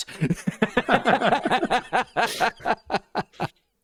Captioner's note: laughter